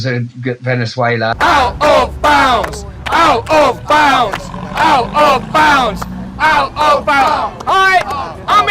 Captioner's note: chanting